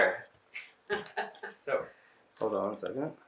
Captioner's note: laughing